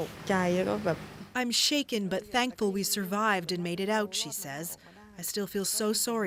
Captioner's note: speaking alternate language